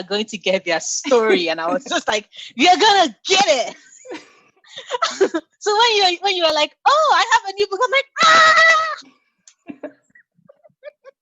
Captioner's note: mutual laughter; screams